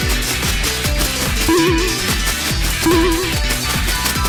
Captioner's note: Atari Donkey Kong Sounds